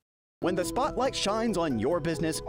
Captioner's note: voiceover